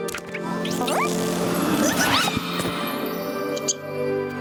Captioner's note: caterpillar noises